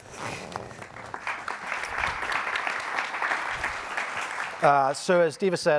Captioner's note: audience applauding